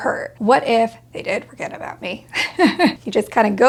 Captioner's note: chuckles